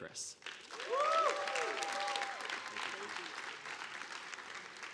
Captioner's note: audience applauding